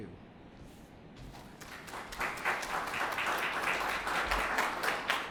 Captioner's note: applause